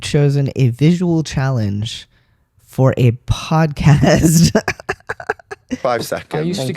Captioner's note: laugh